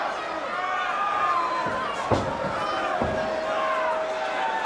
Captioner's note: crowd yelling